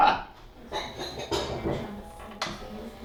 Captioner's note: laughs; dishes clattering; guitar playing softly